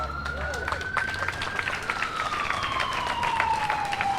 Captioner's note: audience applauds